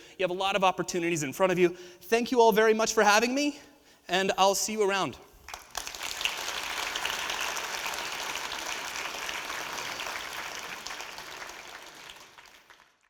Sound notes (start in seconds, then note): 5.4 audience applauding